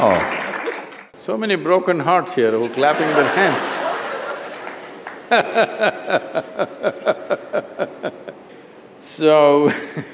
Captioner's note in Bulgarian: Смях; Смее се